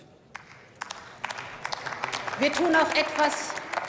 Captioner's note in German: Beifall